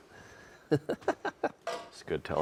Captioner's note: laughing